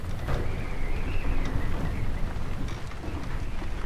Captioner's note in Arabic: عواء الريح